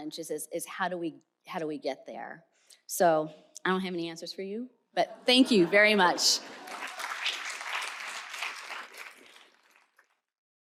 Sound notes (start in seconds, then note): 6.4 applause